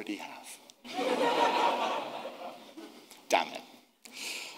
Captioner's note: audience laughing